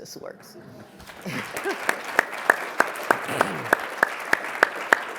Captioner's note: audience applauding